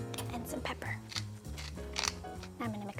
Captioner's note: pepper mill grinding